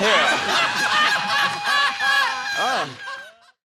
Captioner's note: audience laughing